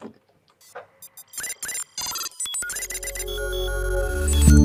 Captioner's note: robot beeps; bright music